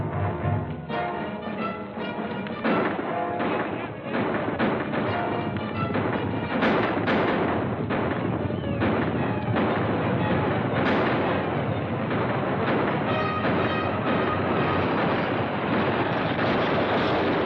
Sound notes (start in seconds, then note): 2.5 firing; 12.9 action music